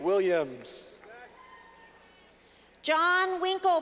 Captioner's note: clapping